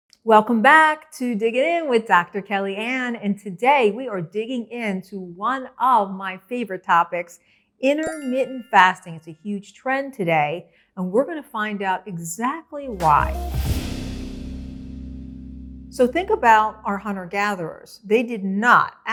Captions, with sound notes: Welcome back to Digging In, with Dr. Kellyann. And today we are digging in to one of my favorite topics "Intermittent Fasting" (bells chiming) it's a huge trend today. And we're gonna find out exactly why(upbeat music) So think about our hunters and gatherers, they did not,